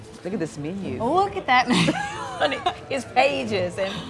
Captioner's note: laughs